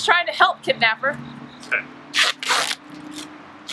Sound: duct tape sound

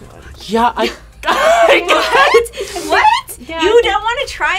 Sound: laughs

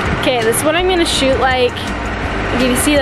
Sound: car engine in background

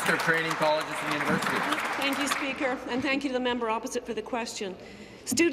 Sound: applause

